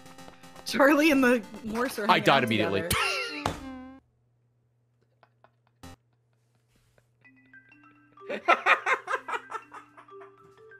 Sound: laughs

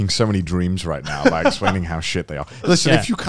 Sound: laughing

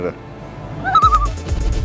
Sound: loon call

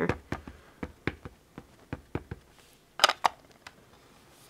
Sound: ink pad tapping

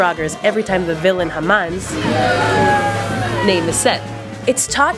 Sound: boooo

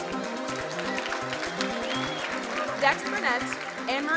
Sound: crowd cheering and applauding

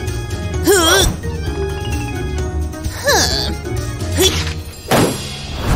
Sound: whistles

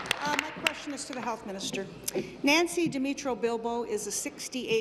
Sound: applause

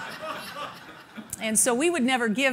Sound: laughing

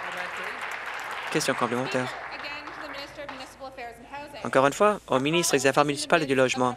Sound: applause

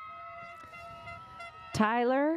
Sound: audience applauds

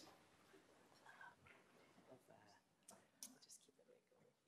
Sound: speaking faintly

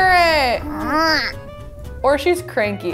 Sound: baby grunts

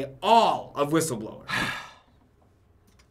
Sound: disgruntled sigh

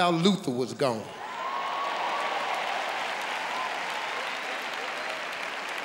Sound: audience clapping

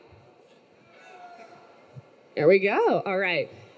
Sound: students cheering

